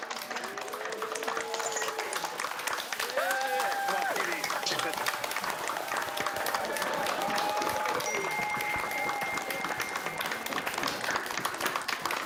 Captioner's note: cheers and applause